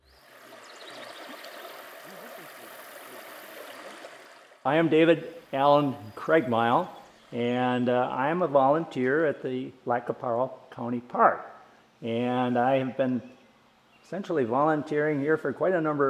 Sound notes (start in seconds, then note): 1.6 water river flowing